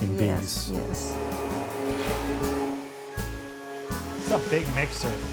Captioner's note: machine whirring